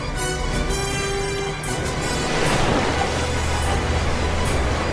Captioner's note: galley hums